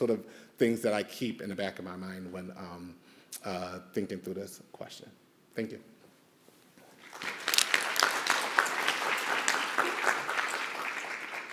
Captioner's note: audience applauds